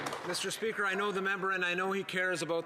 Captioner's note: some Applause